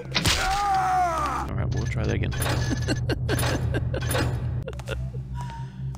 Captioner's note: laughter